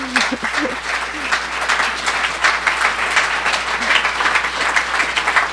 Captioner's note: audience applauding